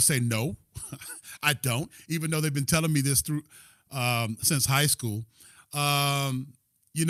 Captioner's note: laughter